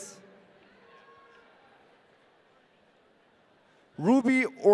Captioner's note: audience cheering